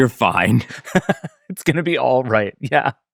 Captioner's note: laughs